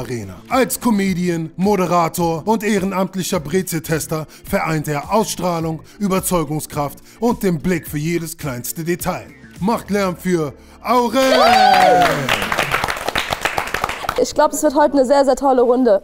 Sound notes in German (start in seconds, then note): 11.1 Jubellaute